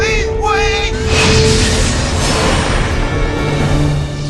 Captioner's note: light swooshes